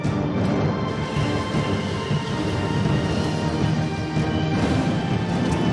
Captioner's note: thunder